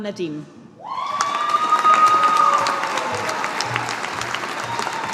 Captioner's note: audience applauding